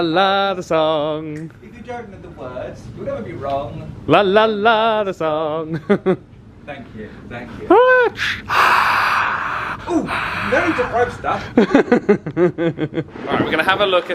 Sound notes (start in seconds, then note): 7.7 cheering; 12.4 laughing